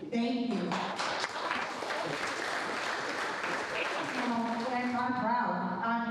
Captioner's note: crowd applauding